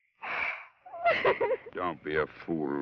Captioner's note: sobs